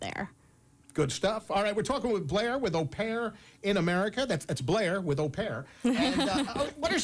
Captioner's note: laughter